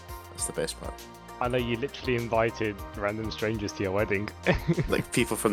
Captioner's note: laughter